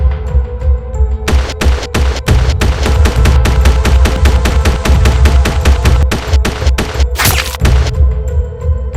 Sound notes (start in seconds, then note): 1.2 rapid Gunfire Continues; 7.6 gun Shot